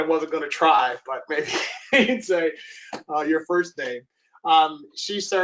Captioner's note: laughs